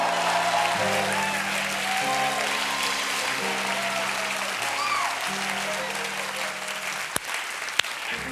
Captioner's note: applause; cheers